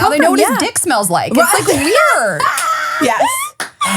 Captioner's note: laughing